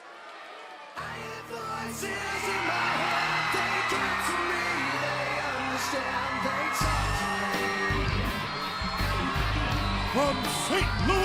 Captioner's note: crowd cheering